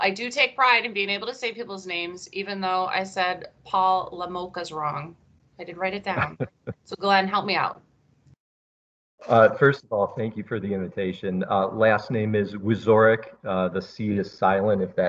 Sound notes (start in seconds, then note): 8.6 laughs